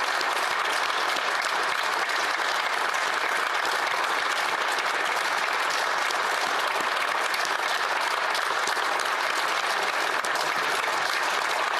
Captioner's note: applause